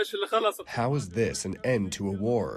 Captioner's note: through translator